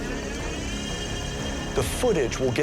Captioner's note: whirring